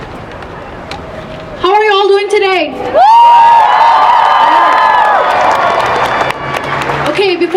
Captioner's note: applause